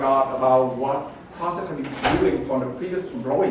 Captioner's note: door closing drowns out speaker